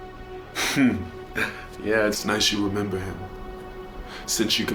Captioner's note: laughing